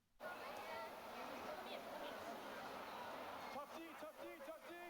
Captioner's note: indistinct chatters